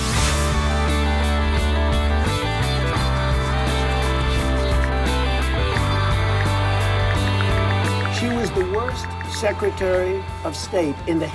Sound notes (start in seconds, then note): 0.1 rock music; 5.2 ticking